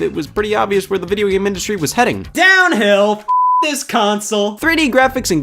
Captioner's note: beep